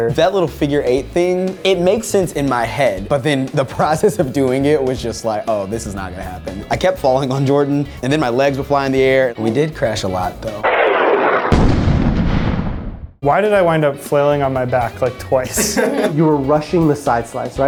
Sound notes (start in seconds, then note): 10.6 crashing sound effect; 15.4 laughing